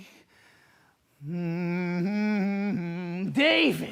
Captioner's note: humming